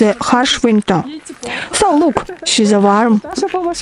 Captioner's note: laugh